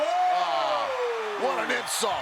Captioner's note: commentators exclaim